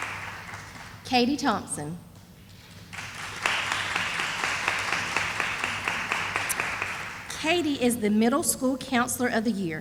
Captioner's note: sound of applause